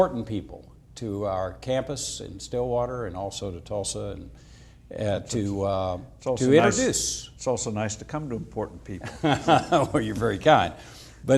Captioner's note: laughs